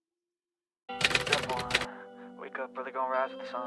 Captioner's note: typewriter Sound